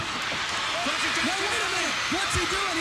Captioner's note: crowd cheering